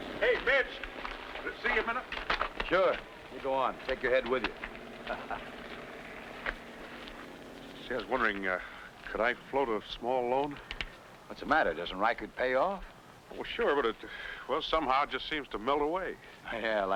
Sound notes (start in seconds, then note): 4.2 laughs